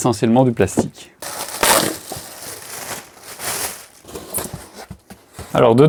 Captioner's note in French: bruit de carton qui se déplace